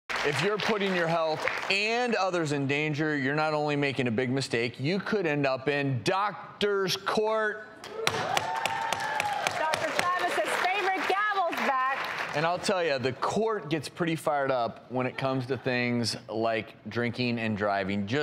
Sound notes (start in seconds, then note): 8.0 audience applauding; 8.3 gavel banging